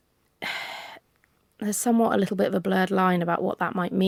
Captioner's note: sighs